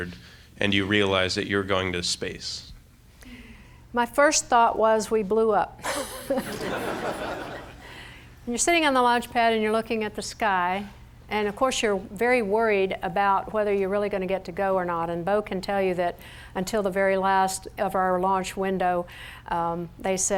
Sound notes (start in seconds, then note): 5.8 laughter